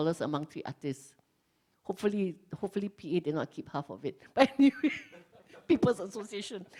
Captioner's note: laughs